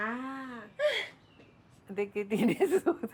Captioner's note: laughter